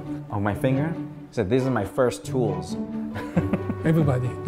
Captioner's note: laughs